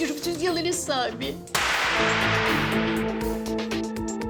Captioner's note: gunshot